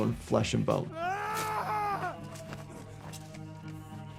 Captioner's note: Erryk screaming